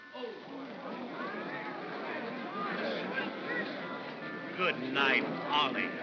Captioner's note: crowd gasps softly; mocking tone